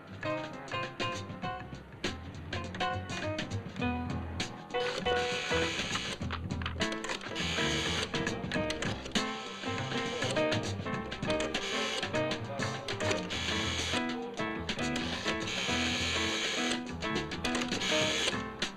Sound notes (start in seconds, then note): 0.2 jazz music; 4.6 machinery clicking & buzzing